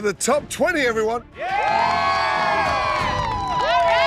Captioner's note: cheering